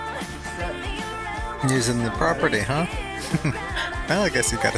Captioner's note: chuckling